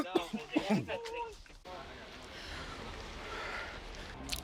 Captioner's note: coughing